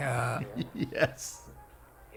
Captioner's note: laughs